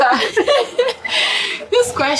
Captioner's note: laughs